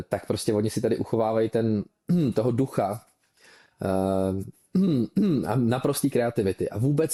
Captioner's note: clears throat